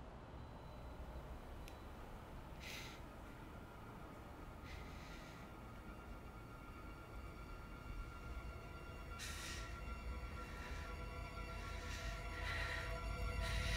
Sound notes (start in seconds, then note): 2.8 heavy breathing; 6.8 suspenseful music; 9.0 rapid breathing